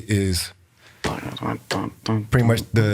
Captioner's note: vocalizing; fingers tapping